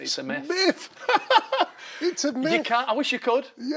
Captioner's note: laughs